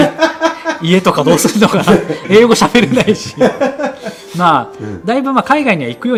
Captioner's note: laughs; laughs